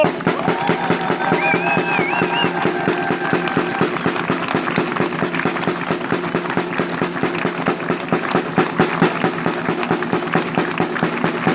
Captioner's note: drumming applause